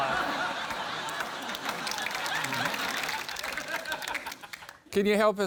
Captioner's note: laughter, applause